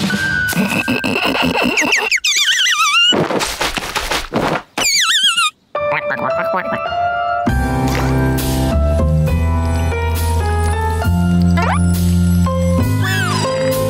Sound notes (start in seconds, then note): 0.2 laughing; 4.8 chirping; 5.5 quacking